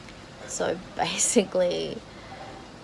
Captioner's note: scoffs